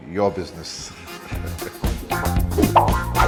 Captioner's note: laughs